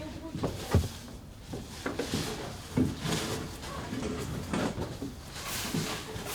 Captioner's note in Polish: odgłosy sprzątania, gwar